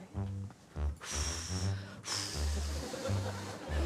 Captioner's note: blows